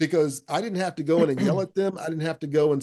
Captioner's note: clears throat